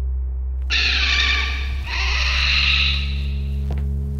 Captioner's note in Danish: Radio hvinen